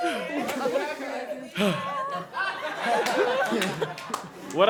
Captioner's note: laughs, takes a deep breath; laughter and chatter